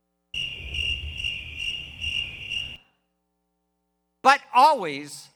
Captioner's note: whistle blowing